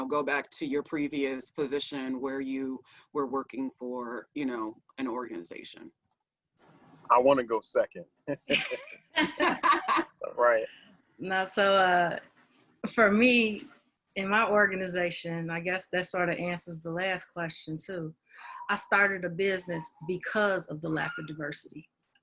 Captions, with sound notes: go back to your previous position where you were working for an organization. I wanna go second. (panelists laughing) For me in my organization, I guess that sort of answers the last question. I started a business because of the lack of diversity,